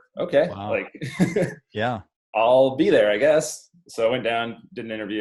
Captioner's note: laughs